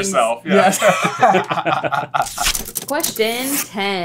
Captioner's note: laughter